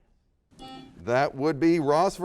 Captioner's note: buzzer beeps